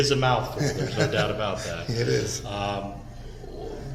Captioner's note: laughing